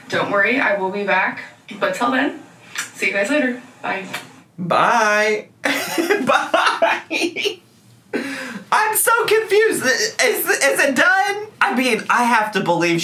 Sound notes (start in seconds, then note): 5.6 man laughing